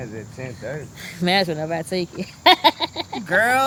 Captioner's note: laughs